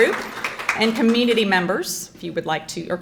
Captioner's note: crowd clapping